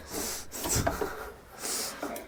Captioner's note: laughing